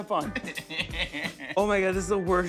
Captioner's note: laughs